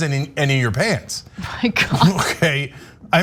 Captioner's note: laugh